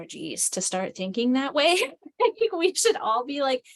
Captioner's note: laughs